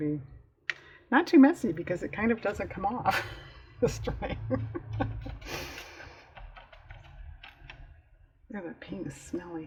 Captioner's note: laughs